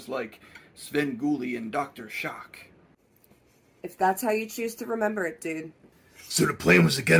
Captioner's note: none